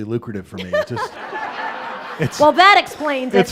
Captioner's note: audience laughing